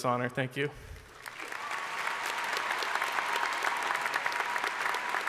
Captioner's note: crowd applauding